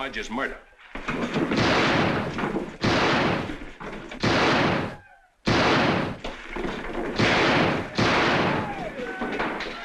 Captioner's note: gunshots